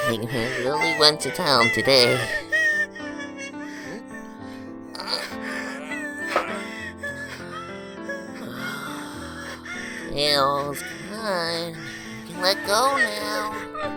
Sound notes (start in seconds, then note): 5.0 grunting; 9.1 sighs